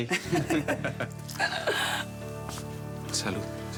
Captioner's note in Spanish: Risas